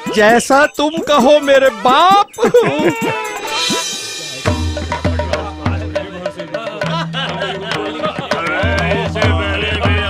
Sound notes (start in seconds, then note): 2.3 chuckles; 4.9 indistinct chatter